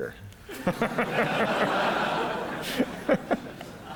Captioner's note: laughter